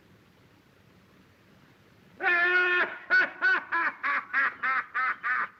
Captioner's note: laughter